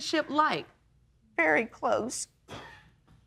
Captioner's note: man in audience coughs